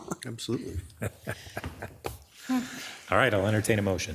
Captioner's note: chuckling; commissioners giggling